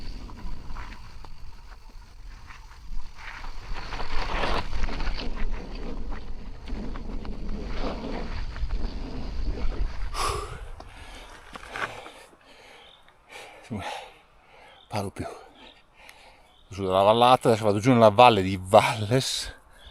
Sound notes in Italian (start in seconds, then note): 13.9 sbuffare